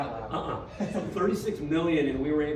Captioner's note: laughing